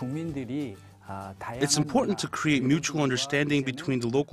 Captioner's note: Korean